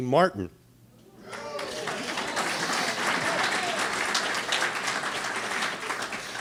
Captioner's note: audience applauding